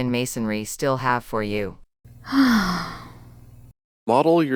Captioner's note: sigh